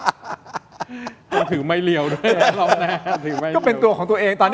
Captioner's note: laughs